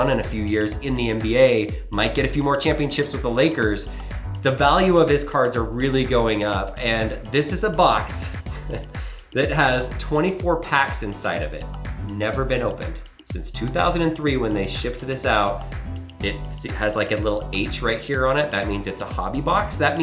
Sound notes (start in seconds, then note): 8.4 chuckling softly